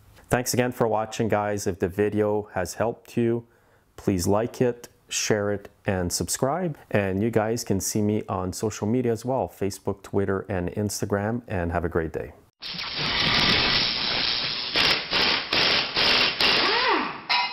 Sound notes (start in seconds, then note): 13.1 workshop noise